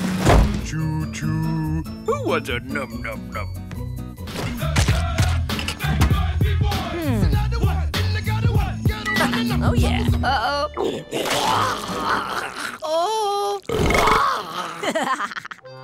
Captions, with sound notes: Choo Choo. Who wants a num num num? Hmm. Ha ha. Oh, yeah. Uh-oh. [vomiting] Oh. [belching] [laughing]